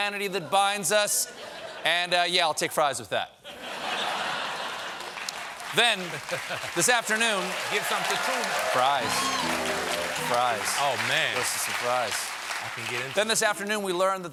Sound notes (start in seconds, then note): 4.6 applause; 5.1 laughter; 9.0 piano riff